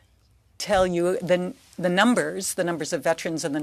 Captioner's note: speaking French